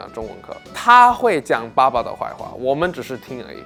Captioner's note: in Mandarin